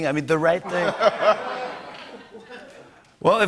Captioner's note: laughter